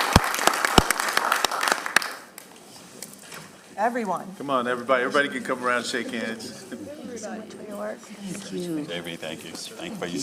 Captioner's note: applause